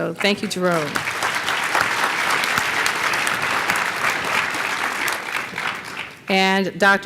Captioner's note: applause